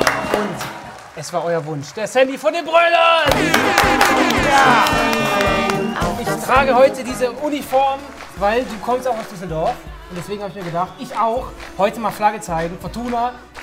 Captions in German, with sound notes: Und, es war euer Wunsch: der Sammy von den Broilers! (Tröten, Applaus) Ich trage heute diese Uniform, weil du kommst auch aus Düsseldorf. Deswegen hab ich mir gedacht: Ich auch! Heute mal Flagge zeigen, Fortuna.